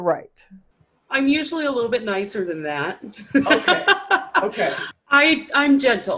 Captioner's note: laughs